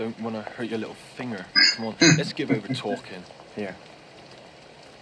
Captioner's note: chuckling